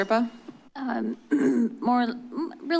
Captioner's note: clears throat